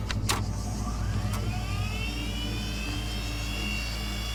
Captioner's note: device whirring